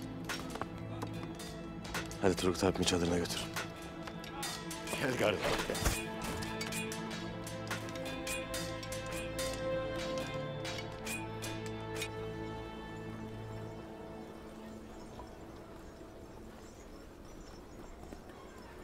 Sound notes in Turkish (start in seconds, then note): 5.4 Kılıç sesleri